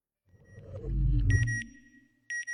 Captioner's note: satellite beeping